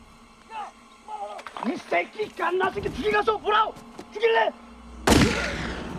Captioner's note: yelling Continues; yelling in Korean; shot Echoes